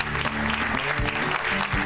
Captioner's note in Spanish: aplausos